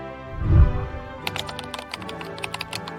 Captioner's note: whooshing sound; keyboard clicking